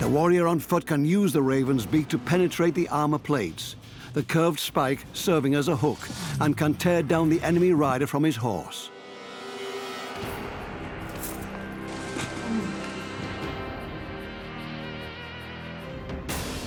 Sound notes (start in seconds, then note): 12.2 grunts